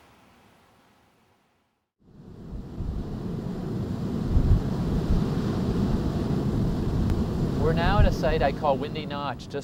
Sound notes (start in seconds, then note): 2.1 sound of wind